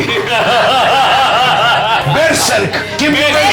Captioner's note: laughs